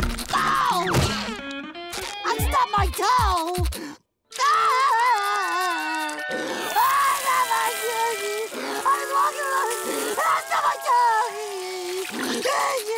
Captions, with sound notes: Ow! I stubbed my toe! [crying] I... I stubbed my toe!